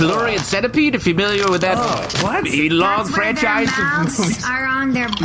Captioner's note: opens bag of chips